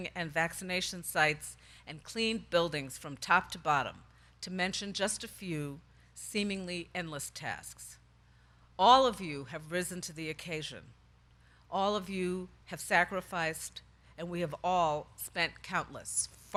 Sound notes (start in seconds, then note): none